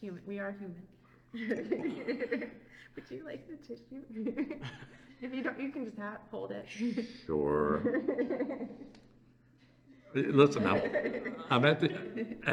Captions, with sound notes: are human [laughs]. Would you like the tissue? If you don't, you can just hold it. Sure.[laughter] Listen I am at